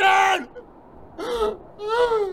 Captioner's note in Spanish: sollozo